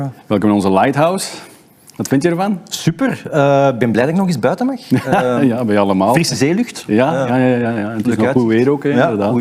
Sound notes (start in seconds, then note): 4.9 laughs